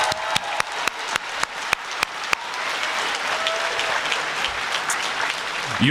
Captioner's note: applause